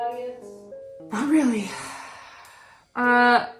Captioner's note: sigh